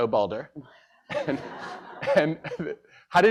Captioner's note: laughter